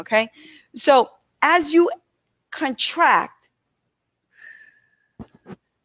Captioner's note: exhales